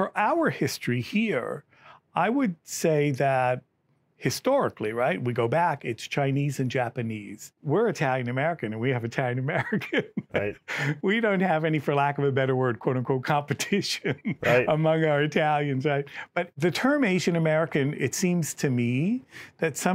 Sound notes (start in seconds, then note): 9.6 laughs